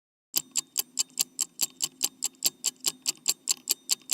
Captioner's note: clock ticking